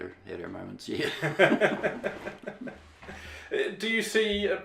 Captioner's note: laughing